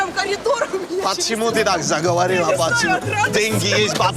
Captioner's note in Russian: грузинский акцент